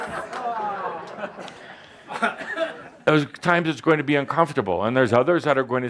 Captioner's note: laughter